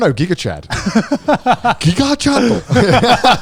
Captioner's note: guys laughing